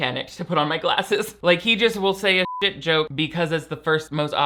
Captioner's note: beep